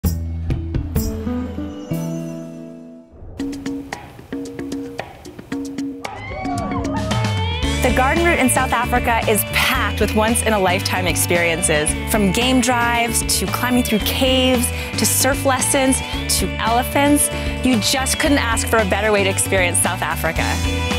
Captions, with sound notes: (calm music) (upbeat music) (screaming) - The Garden Route in South Africa is packed with once in a lifetime experiences. From game drives to climbing through caves to surf lessons to elephants, you just couldn't ask for a better way to experience South Africa.